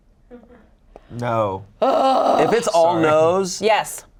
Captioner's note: groans; laughs